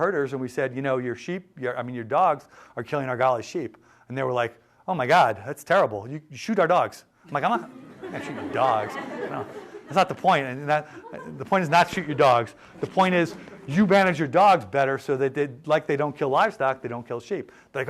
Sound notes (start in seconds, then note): 7.5 laughter